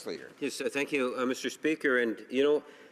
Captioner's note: speaking french